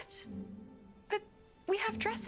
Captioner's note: none